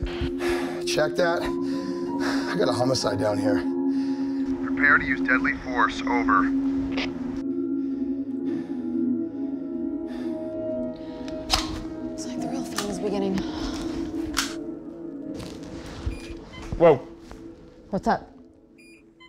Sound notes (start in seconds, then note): 11.5 rifle cocks; 16.1 remote alarm beeps